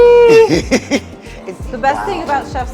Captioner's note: giggling